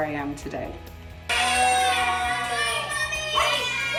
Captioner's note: all cheering